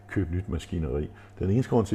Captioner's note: none